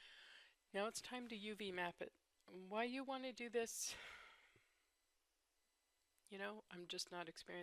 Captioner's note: sigh